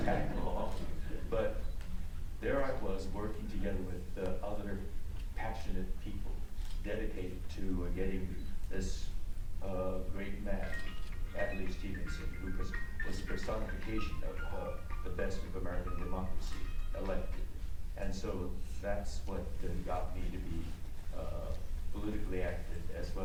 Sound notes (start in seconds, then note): 13.8 cellphone rings